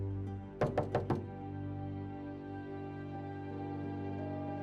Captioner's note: knock on door